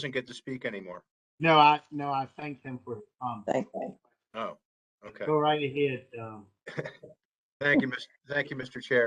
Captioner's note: laughter